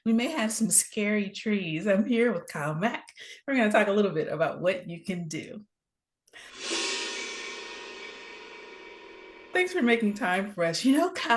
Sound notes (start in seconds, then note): 6.5 graphics swoosh